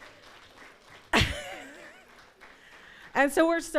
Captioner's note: laughing